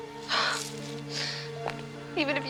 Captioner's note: Rebecca sighs